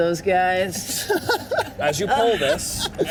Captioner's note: Walker laughs